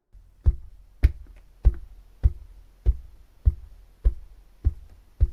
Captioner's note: footsteps